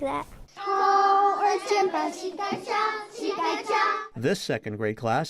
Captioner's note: speaking Mandarin